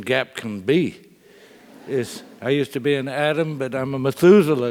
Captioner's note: laugh